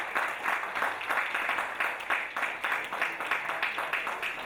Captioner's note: audience applauding